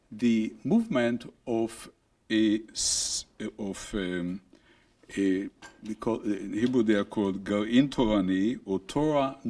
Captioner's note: speaking hebrew